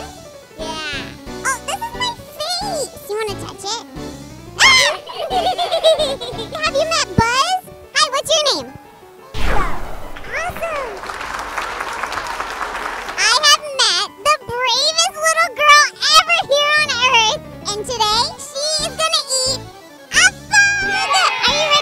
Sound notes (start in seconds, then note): 4.6 laughing; 10.3 clapping